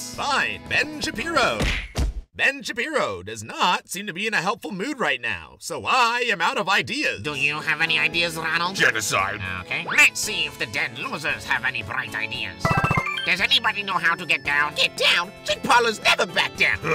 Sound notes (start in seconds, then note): 12.6 Mass 1-Up Machine sounds